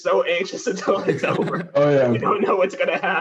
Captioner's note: laughter